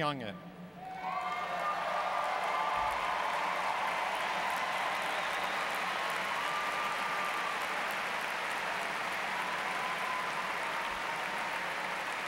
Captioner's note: applause